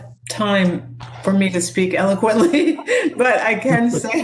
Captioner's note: laughs